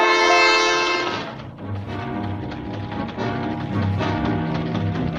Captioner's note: typewriter clacks